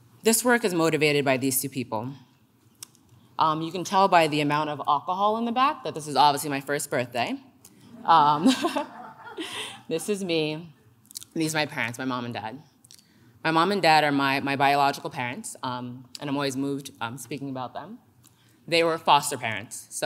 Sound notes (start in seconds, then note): 8.2 laugh